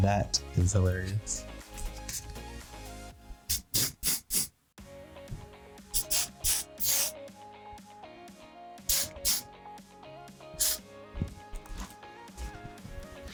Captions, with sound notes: - That is hilarious. (spraying) (upbeat music)